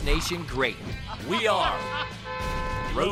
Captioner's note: horn honking